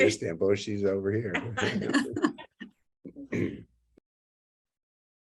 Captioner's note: laughs